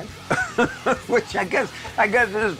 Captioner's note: laughs